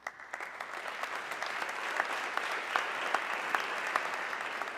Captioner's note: audience clapping